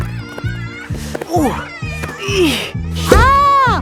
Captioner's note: grunting